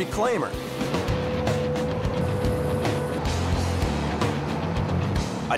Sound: machine whirring

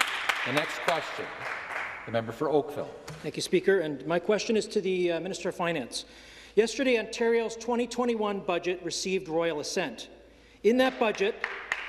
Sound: some Applause

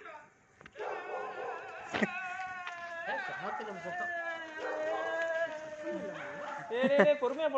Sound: sound of joy

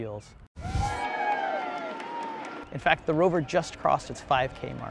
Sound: crowd noise

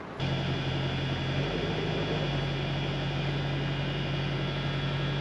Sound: diesel engine sounds

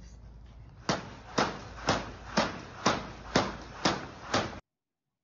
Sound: ropes smacking the ground

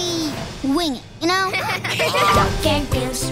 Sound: laughter

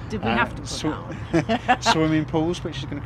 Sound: laughter

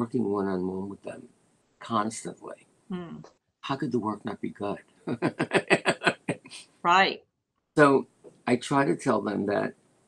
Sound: laughter

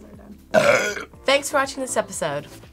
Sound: burps

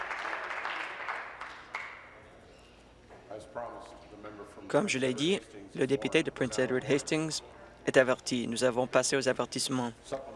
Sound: applause

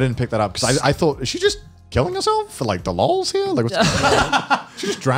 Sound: murmurs

